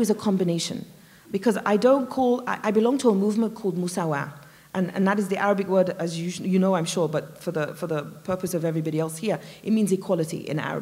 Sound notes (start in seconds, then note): none